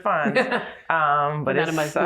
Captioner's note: laughs